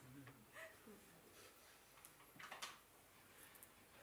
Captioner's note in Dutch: zacht gehuil in de sangha